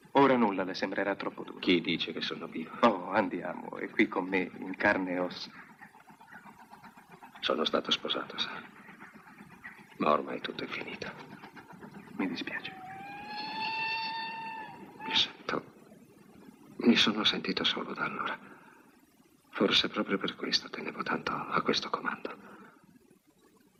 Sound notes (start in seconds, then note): 13.0 train whistle blowing